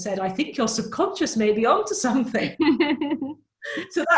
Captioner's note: laughs